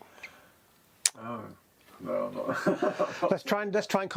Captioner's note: laughs